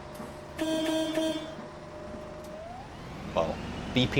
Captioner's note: honk honk honk